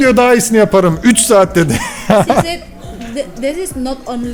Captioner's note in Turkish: kahkaha